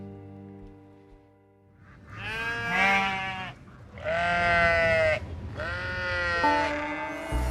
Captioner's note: bleating